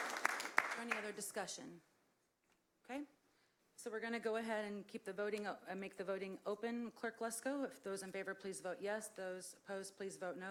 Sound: applause

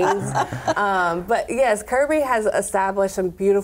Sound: laughter

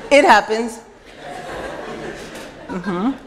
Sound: laughter

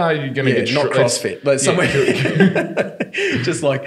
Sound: laughing

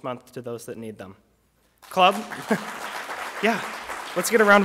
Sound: applause

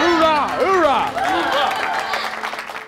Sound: cheering

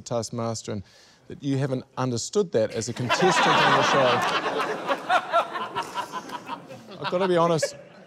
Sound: laughter

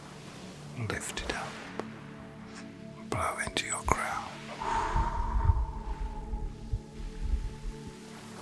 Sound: blows

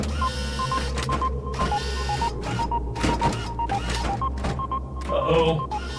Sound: Destructivas whirring and clanging

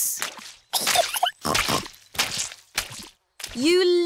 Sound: giggles and snorts

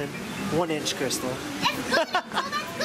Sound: laughing

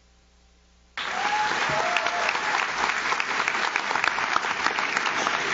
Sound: audience claps

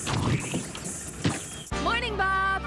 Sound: splosh!

